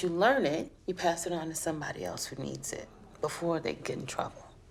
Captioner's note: none